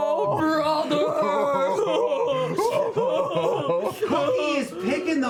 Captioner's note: fake sobbing